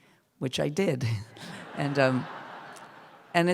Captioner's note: laughter